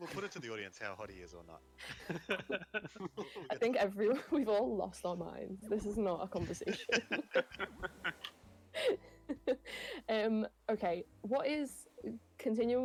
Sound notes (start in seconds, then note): 6.4 laughter